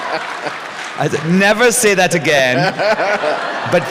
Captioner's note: laughter